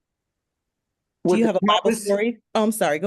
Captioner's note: speaking faintly